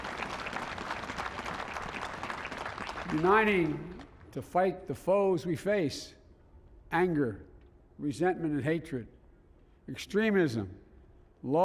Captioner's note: applause